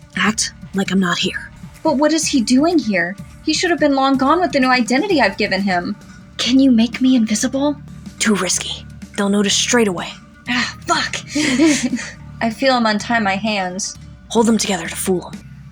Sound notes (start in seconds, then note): 11.1 both Chuckle